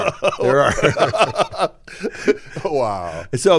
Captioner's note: laughing